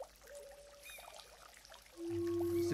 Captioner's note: birds chirping, conch shell horn in distance